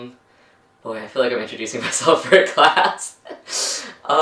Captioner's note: laughs